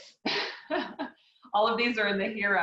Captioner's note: laughs